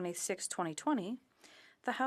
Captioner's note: speaking in French